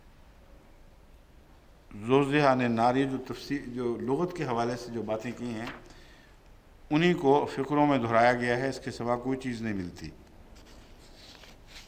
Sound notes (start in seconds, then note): 6.4 Arabic